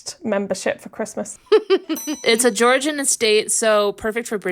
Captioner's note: laughing